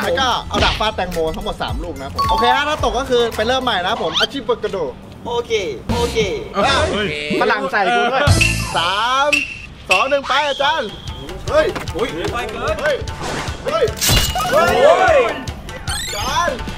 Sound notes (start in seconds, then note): 4.1 mumbling in Japanese; 11.4 cheering; 14.0 hit